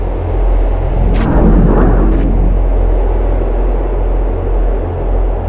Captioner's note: portal whirring